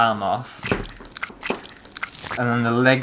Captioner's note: bloody Squishes